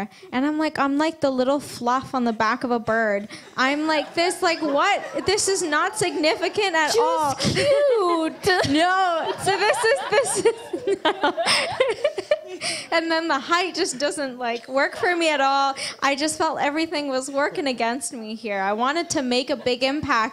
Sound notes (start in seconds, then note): 10.8 laughs